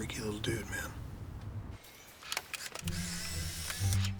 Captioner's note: camera whirring